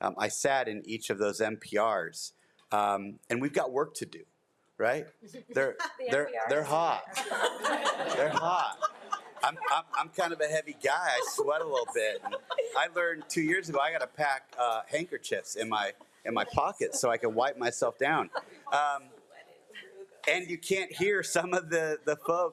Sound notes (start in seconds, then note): 7.5 audience laughs